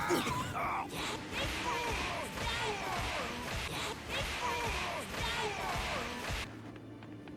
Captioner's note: villain Style